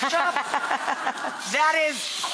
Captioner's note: laughter from the audience